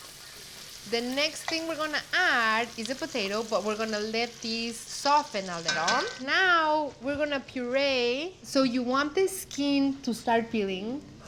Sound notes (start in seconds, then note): none